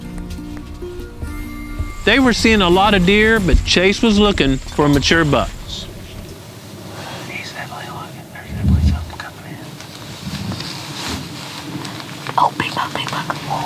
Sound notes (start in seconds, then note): 6.8 whispering